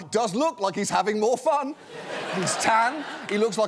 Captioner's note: laughter